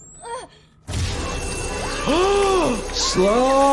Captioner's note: Olivia gasps; gasps; laser roars